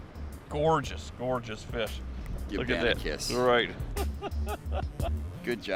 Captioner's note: laughing